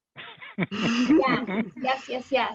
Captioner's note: both laughing